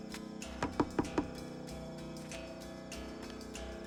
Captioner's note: knocking